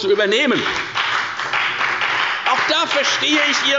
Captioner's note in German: Beifall bei der FDP